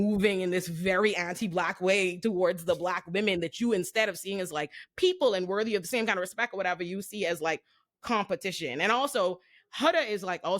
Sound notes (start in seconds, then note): none